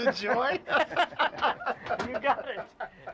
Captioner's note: laughter